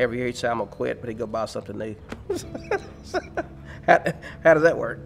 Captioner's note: laughs